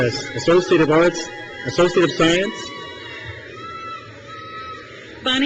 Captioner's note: crowd cheers